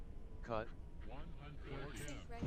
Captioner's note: robotic Voice